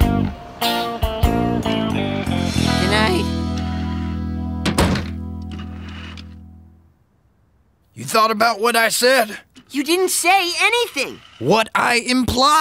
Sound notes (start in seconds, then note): 4.6 slamming